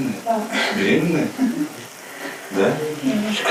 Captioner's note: she giggles